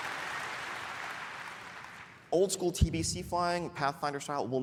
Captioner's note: applause; shouting